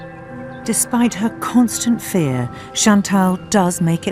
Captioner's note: voiceover